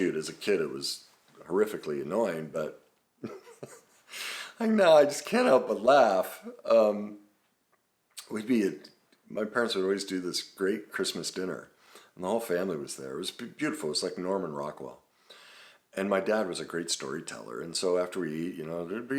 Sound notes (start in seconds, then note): 3.2 laughs